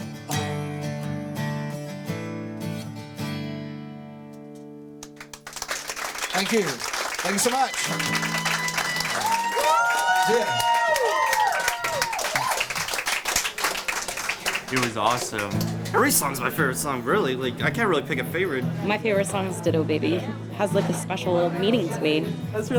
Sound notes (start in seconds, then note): 0.0 guitar playing; 5.2 audience clapping; 8.0 audience cheering